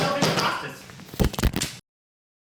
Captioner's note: multiple bangs; camera hits the ground